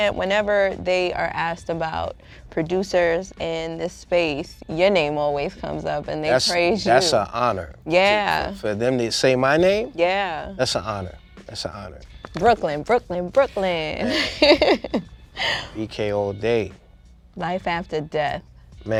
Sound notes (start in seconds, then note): 14.0 laughing